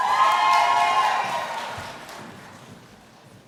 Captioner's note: cheering